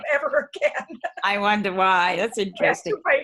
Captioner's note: chuckles